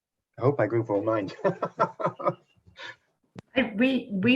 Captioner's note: chuckle